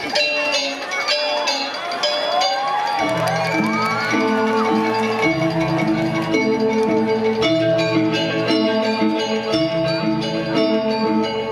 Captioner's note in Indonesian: Tepuk tangan